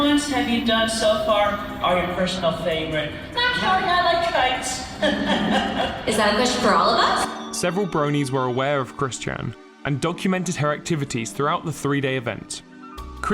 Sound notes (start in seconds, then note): 4.9 laughter